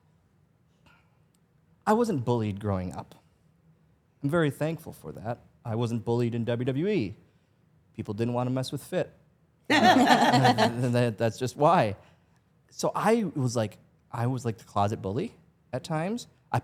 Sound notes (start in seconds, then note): 9.7 Stephanie and Elyse laugh